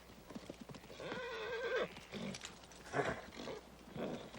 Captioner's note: shrieks; horse whinnies